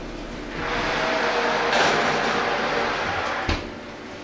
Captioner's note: oven roar